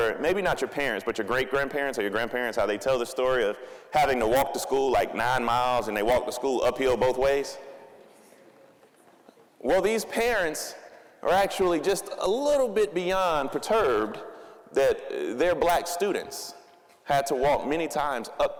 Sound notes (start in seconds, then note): none